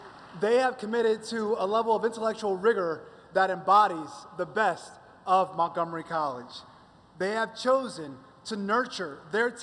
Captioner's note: applause